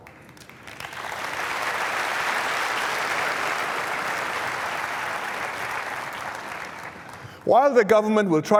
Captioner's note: applause